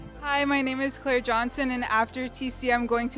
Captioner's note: none